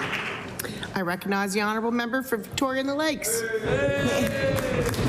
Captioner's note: applause